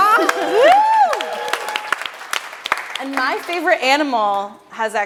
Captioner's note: audience claps and cheers